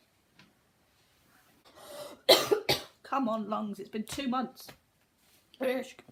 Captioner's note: coughs